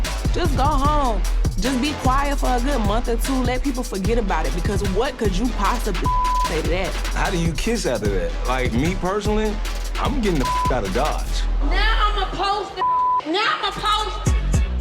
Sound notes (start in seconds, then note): 6.0 beep; 10.4 beep; 12.8 beep